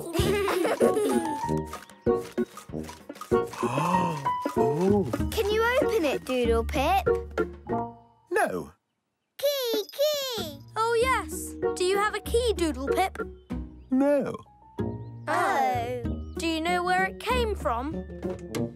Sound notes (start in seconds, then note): 0.0 laughing; 3.5 gasping